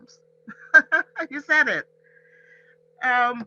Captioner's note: laughs